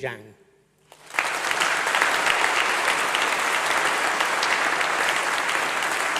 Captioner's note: applause